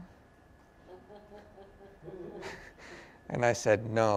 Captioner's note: laughter